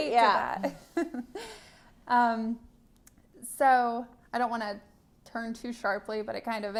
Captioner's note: laughter